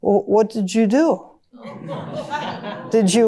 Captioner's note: audience chuckles and groans